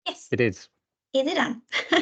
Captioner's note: laughs